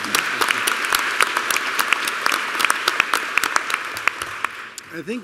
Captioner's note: applause